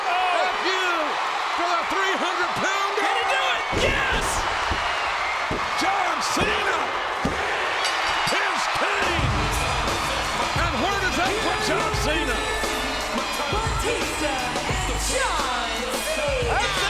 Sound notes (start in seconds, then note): 7.2 hand pounding; 9.6 upbeat music